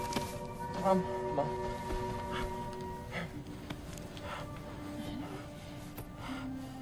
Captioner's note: Anakin gasping